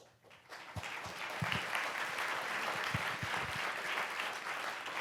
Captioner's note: audience applauds